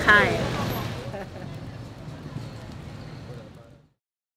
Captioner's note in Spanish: risas